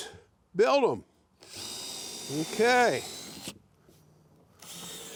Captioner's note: drill whirring